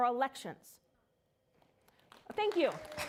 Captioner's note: applause